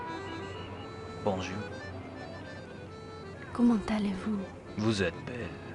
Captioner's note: traditional French accordion music; speaking in French